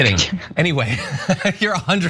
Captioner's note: laugh